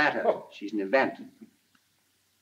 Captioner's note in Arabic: يضحك الرائد